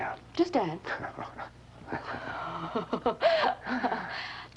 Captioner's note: laughing